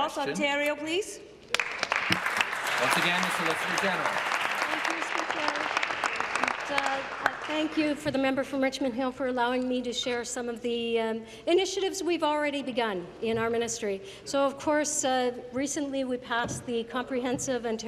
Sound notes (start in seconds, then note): 4.4 applause